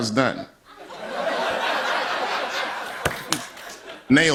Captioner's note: laughter